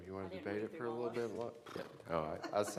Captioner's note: laughing